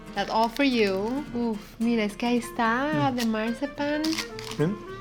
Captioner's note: speaking Spanish